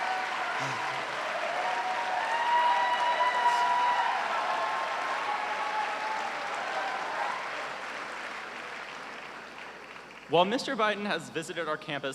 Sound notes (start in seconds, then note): 0.0 cheers and applause